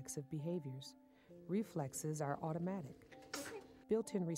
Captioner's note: baby sneezing